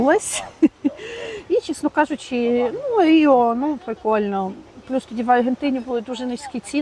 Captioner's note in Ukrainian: сміх